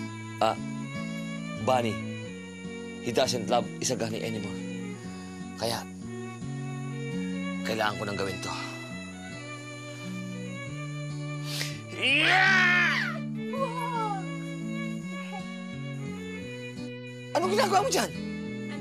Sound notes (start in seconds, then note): 12.0 shouts